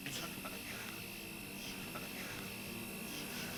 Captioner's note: laughs